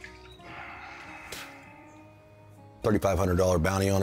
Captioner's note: Chris exhales